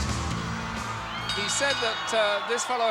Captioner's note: bell rings